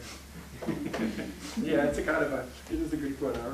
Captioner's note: laughing